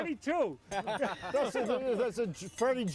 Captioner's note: everyone laughs